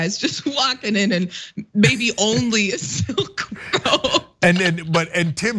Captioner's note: laugh